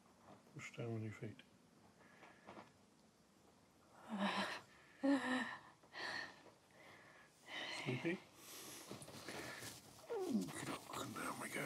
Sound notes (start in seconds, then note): 4.7 sharp breath